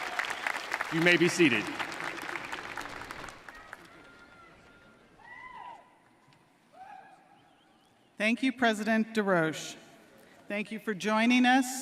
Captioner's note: cheering and applause